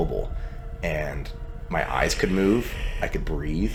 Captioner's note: intense breathing